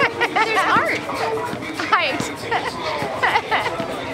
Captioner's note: laughter